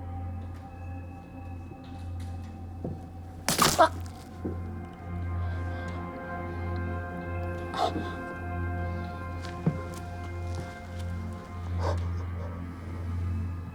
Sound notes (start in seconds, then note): 0.1 haunting music; 3.4 flesh squishing